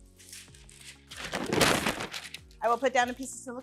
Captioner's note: relaxed electronic music; loud crumpling